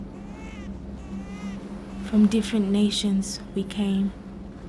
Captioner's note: none